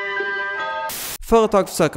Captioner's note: white Noise